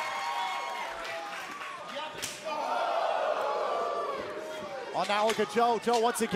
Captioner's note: crowd cheering